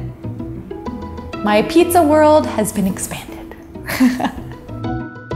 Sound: upbeat music ends; laughs

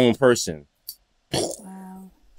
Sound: mimics explosion

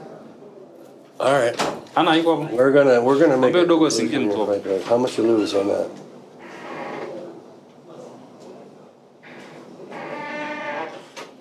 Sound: speaks Swahili

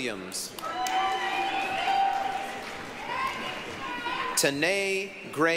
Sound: applause, cheering

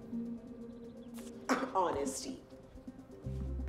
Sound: scoffs

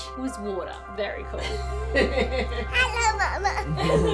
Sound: laughs; both laughing

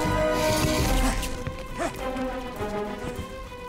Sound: grunting

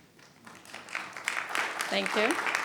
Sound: attendees applauding

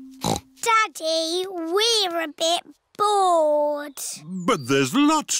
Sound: snorts

